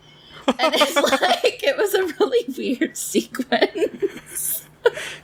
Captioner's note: laughs